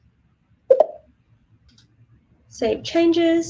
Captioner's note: mouse clicking